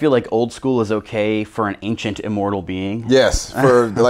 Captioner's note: laughs